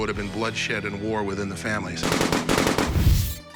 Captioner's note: gunfire